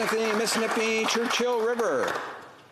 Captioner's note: applause